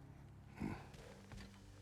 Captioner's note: grunt